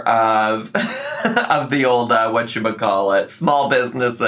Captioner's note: laughs